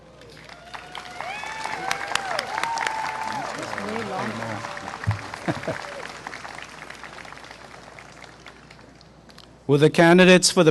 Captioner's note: applause and cheering